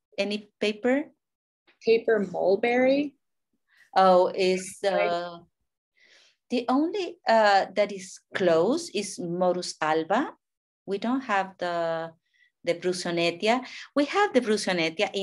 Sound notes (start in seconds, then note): 7.7 speaking in a foreign language; 11.6 speaking in a foreign language; 14.2 speaking in a foreign language